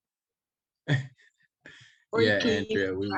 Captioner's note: chuckles